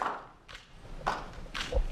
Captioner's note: applause